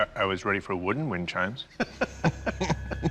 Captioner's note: laughs